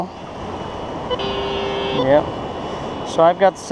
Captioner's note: detector buzzes